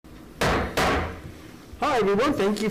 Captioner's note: gavel bangs